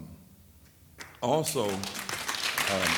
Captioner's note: audience applauds